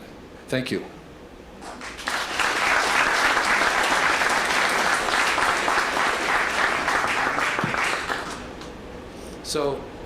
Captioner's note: applause